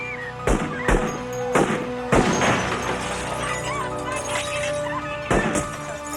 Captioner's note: gunshot blasts; woman screams